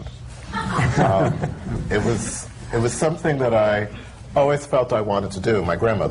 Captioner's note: laughter